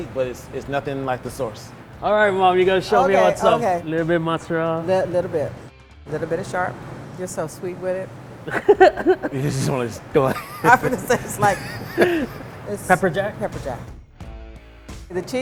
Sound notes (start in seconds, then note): 8.4 laughter